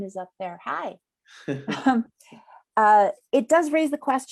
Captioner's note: laughter